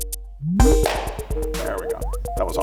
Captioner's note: show theme music; clapperboard claps